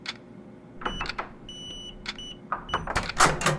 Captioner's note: keypad beeps; door opens